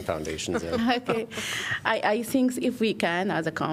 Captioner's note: laughter